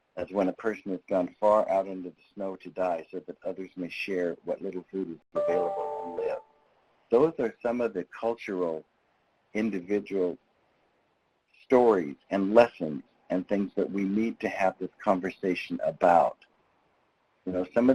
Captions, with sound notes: as when a person has gone far out into the snow to die so that others may share what little food is available to live. (electronics chiming) Those are some of the cultural, individual stories and lessons and things that we need to have this conversation about.